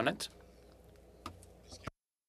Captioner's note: speaking french